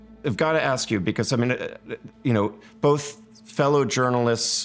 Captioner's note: stammering